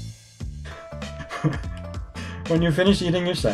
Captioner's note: laughs